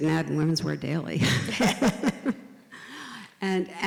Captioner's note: laugh